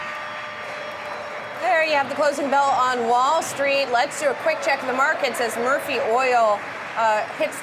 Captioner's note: bell ringing